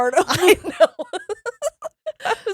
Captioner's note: laughing